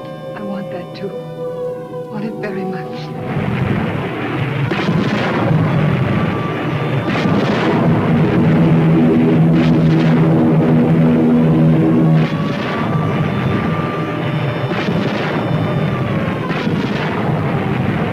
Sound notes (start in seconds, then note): 4.5 explosions booming; 8.5 plane engines roaring; 12.3 explosions booming; 12.3 sirens blaring